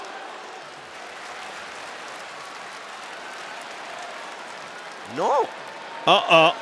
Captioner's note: applause